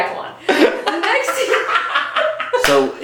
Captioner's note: both laughing